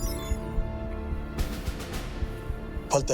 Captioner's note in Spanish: Pitido